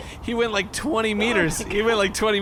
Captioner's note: swatting noise; Nermut yelps and skitters